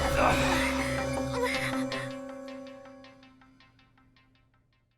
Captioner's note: all gasps; Max groans; Terra grunts